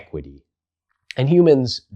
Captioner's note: beat